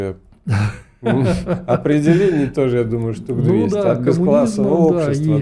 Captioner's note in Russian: смех